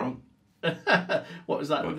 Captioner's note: laughs